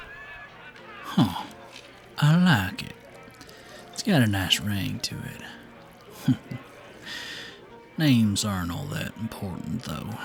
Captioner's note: chuckles